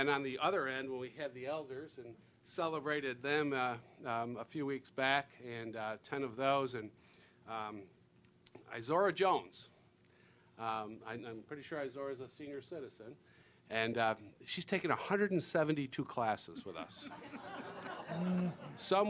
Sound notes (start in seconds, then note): 16.5 laughing